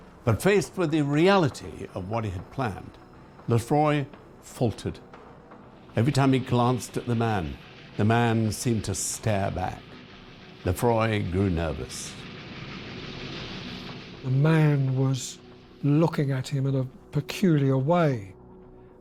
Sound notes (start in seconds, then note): 12.3 train rattling